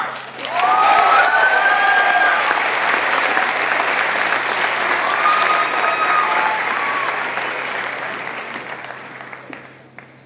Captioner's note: applause